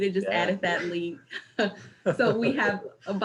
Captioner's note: giggles